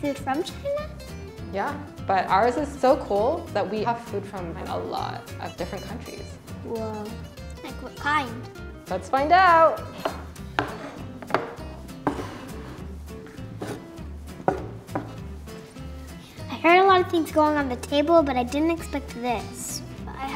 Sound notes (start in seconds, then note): 11.1 plates placing; 12.5 upbeat instrumental music